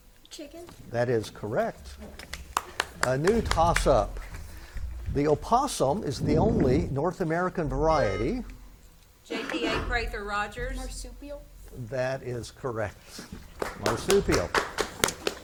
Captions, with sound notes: - Chicken. - That is correct. (spectators clap) A new tossup. The opossum is the only North American variety- - JTA, Prather-Rogers. - Marsupial. - That is correct, marsupial. (spectators clap)